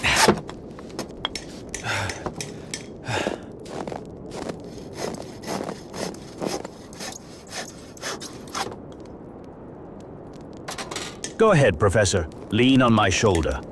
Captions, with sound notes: (Footsteps) Go ahead professor. Lean on my shoulder.